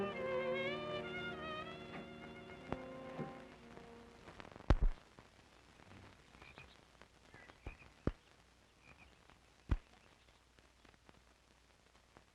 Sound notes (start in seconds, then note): 7.2 birds chirping